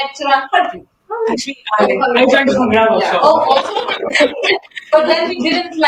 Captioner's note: laughter